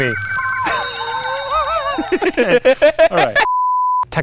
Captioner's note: both laughing